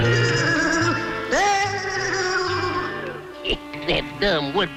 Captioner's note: Woody booing